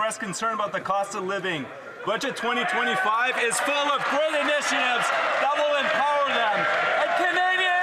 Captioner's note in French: voix de l'interprète